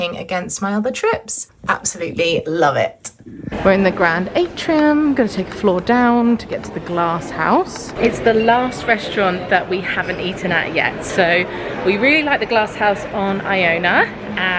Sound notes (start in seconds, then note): none